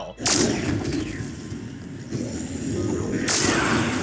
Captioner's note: saber whirring